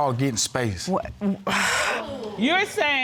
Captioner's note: sighs